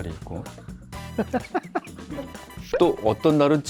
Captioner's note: laughs